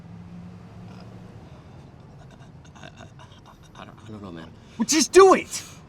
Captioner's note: stammers